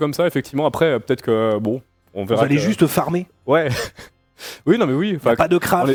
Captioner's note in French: rires